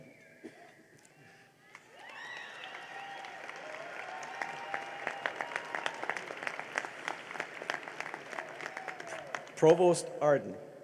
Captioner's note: cheering and applause